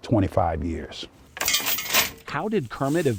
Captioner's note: chain rattling